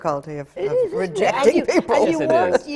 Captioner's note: laughs